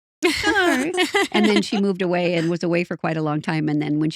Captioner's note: laughing